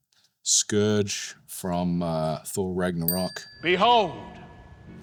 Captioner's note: tone dings